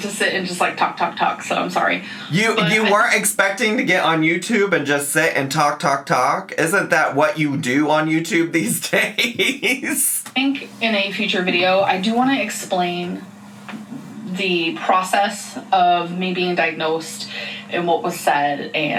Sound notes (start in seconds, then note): 8.2 laughs